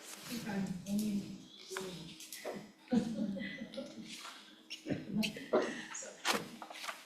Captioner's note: laughs